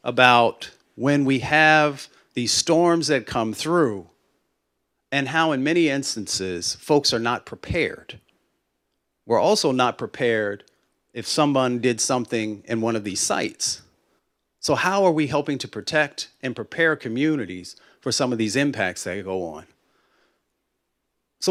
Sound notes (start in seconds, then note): none